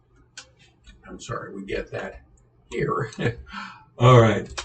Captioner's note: laughs